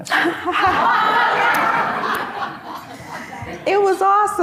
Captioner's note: audience laughing